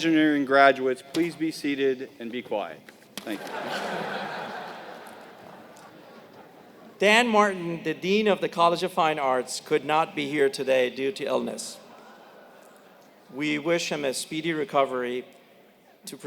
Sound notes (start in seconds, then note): 3.3 laugh